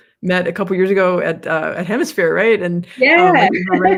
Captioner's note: laughs